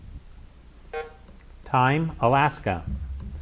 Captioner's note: buzzer buzzes